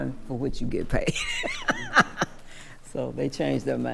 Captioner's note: laughing